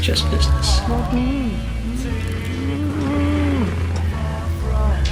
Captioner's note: muffled crying